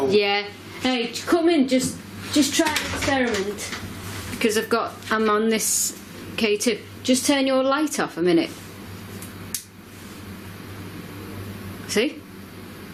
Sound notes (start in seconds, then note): none